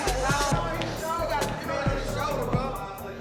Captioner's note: inmates chattering